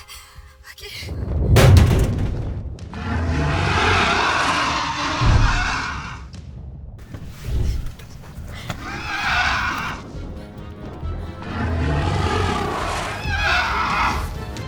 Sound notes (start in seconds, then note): 1.5 car thuds; 2.9 dragon growls; 9.6 Connie sobs; 9.6 dragon roars